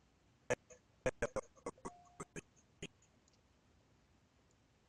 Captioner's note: audio skipping